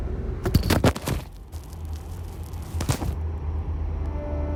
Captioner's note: shuffling/falling